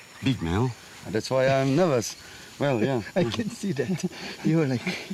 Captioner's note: laughs